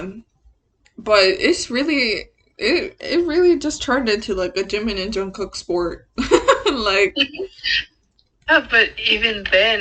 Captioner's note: laughs